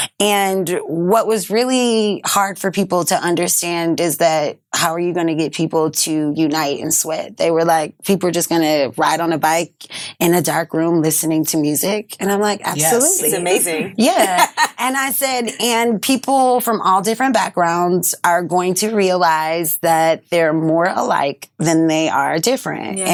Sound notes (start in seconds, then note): 12.8 laughs